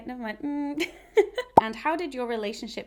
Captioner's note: chuckles